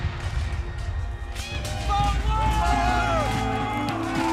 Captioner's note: shouting